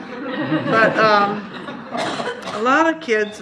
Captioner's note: laughter